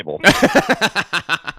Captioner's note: laughing